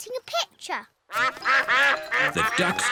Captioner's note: quacking